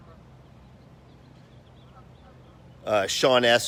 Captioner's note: birds chirping